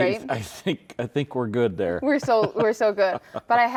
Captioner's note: laughs